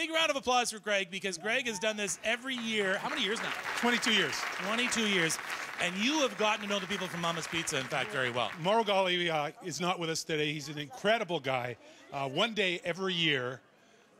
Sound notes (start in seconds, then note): 9.5 applause